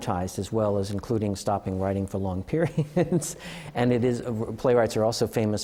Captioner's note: laughter